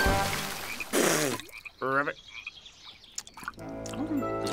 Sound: spits

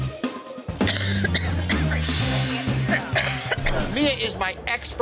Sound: coughs

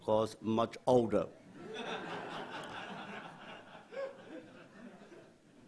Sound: audience laughs

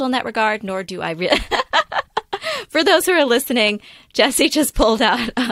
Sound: laughter

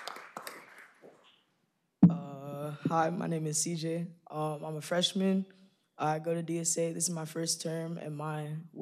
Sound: applause

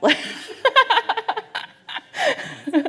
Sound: laughs

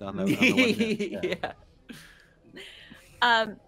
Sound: chuckling

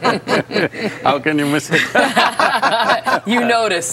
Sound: laughter

